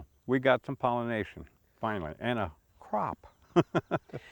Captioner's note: chuckles